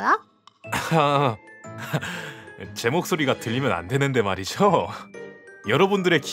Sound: laughing

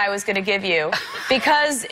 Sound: Ellen laughs

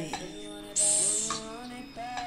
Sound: hiss

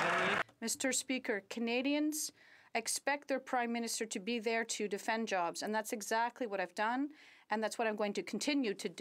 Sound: some Applause

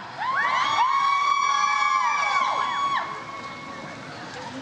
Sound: audience cheers

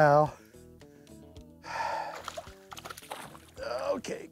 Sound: sighs

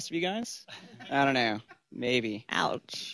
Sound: laughter

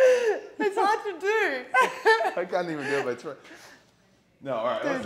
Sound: laugh

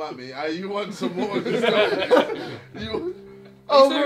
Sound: all laughing

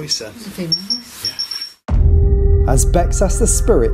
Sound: beeping

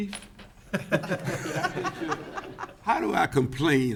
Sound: all laughing

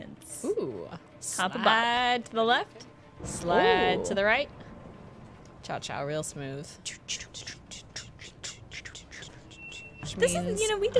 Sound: chuffing cha-cha noises

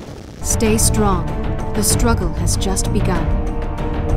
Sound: voiceover

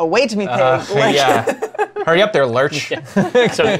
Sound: laughter

